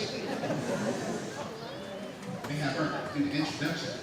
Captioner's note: laughing